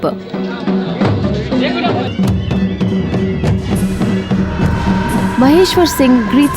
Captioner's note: bell jingling; soft drumming